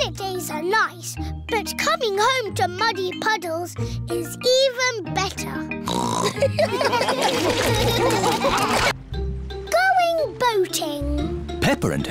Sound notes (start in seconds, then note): 5.9 snorts; 6.3 laughter